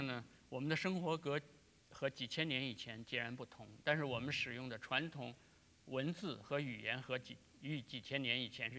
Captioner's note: speaking in Chinese